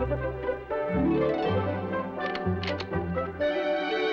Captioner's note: unlocks door